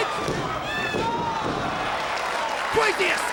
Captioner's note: audience cheering